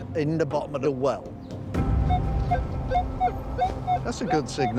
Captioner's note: beeping